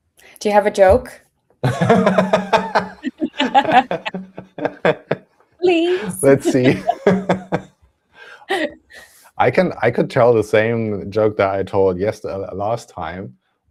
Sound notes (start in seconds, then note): 1.6 laughter